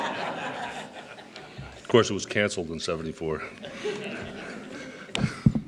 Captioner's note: chuckles